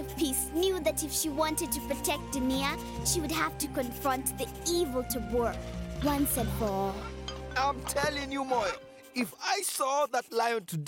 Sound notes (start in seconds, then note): none